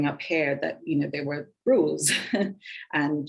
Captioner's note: woman chuckling